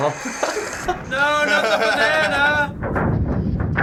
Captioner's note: chuckles; laughs; rumbling and creaking; crashing; laughing